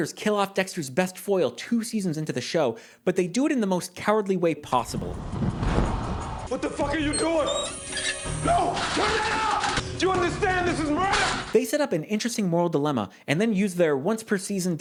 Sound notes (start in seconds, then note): 4.9 whooshing of flames